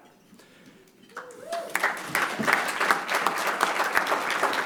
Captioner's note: applause